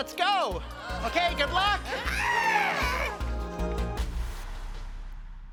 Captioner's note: group gasping